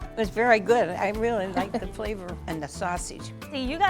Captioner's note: laughing